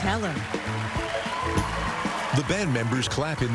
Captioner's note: cheering and applause